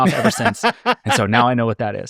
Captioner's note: laughing